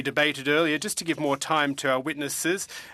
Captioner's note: speaking french